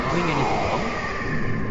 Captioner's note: reverberating warped whirring